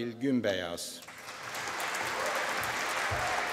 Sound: applause

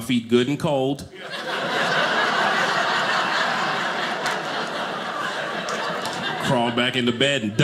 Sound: audience laughing

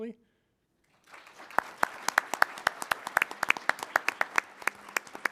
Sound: applause

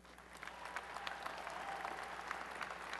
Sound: applause and cheering

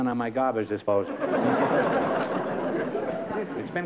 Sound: laughter

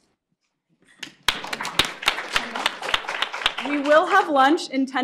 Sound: applause

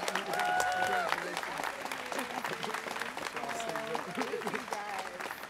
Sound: students cheering

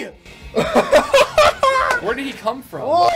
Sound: laughs

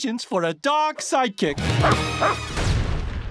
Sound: barking

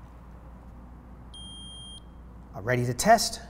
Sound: meter beeps

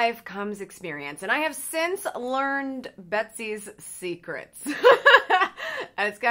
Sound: laughs

